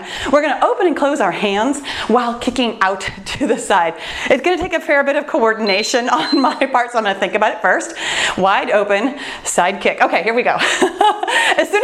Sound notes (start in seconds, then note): 5.6 timer beeps; 11.1 laughs